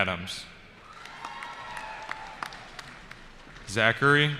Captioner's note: cheering